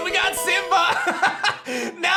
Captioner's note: laughs